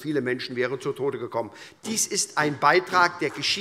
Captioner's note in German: Vereinzelter Beifall